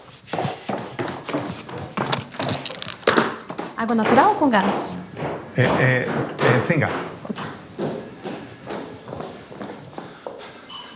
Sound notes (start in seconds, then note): 0.3 loud footsteps; 5.0 footsteps in the background; 7.7 loud footsteps